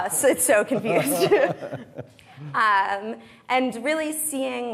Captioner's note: laughs